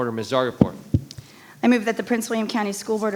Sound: microphone rattling

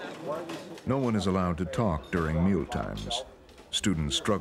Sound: voiceover

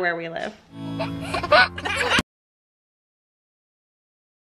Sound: laughs

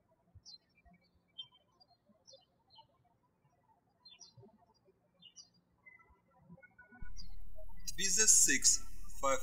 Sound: birds chirping

